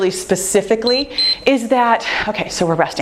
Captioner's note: timer beeps